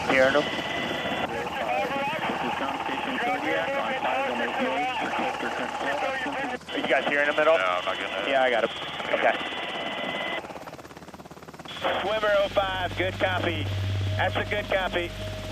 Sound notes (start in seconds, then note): 0.3 man Over Radio; 8.3 person Over Radio; 9.8 Coast Guard Member Over Radio; 10.7 man Over Radio